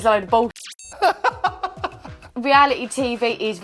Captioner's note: laughing